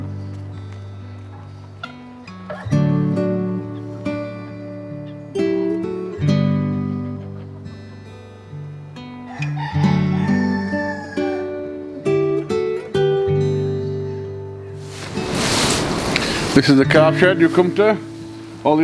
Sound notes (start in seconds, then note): 0.2 peaceful music; 9.2 cockerel crows